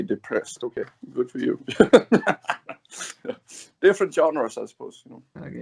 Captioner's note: laughs